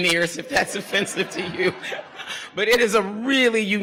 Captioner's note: laughs